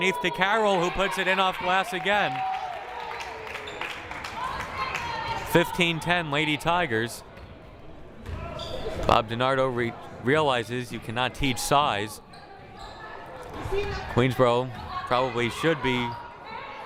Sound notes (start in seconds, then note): 2.5 crowd cheering and applauding